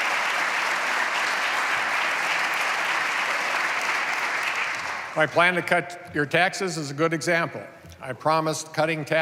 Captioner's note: applause